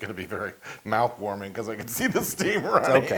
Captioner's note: laugh